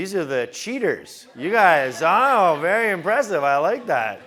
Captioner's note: laugh